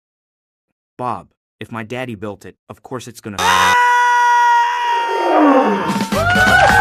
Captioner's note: screaming; cheering and applause